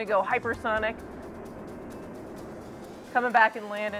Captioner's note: Talon whooshing